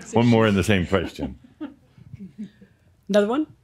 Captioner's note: a few giggles